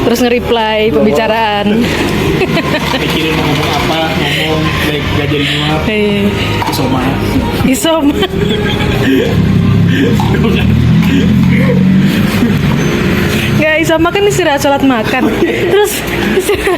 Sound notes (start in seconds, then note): 9.0 wheezing